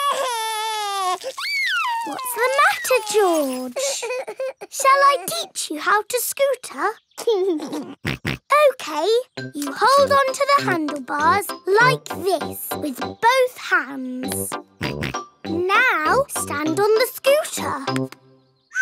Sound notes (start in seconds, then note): 0.0 crying; 7.5 laughs and snorts; 15.0 snorts